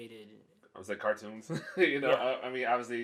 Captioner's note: laughs